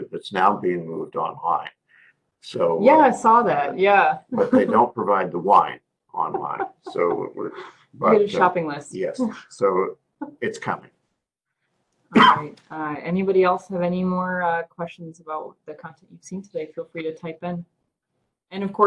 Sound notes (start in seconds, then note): 4.3 laugh; 6.2 laugh; 12.1 cough